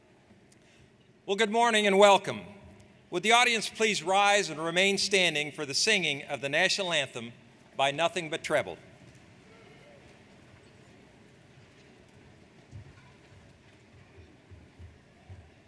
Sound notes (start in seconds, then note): none